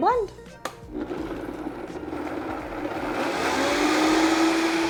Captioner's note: blender whirring